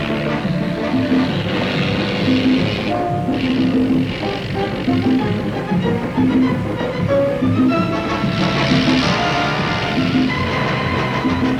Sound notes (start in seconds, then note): 0.1 dramatic music; 7.2 car engine revving